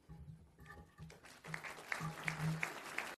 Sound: applause

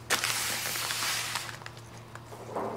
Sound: ruffling

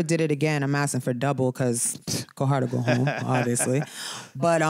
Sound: laughter

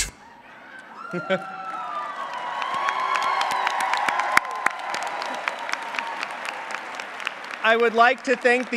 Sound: applause

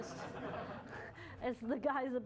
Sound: laughter

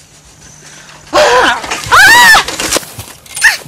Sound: sounds of shock

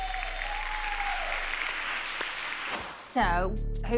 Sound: judges applaud

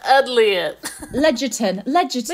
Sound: laughs

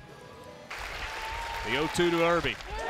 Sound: clapping

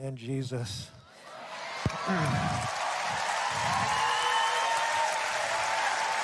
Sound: audience cheering

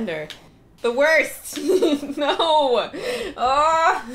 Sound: laughing

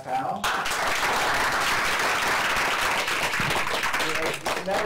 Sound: applause

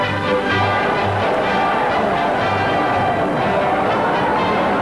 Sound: crowd cheering

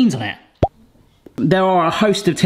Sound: pop

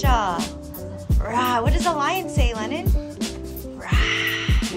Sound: roars

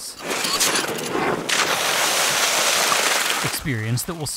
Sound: water squirting out

